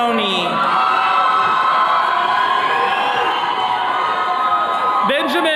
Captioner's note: attendees cheering